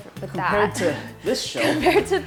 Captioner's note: laughs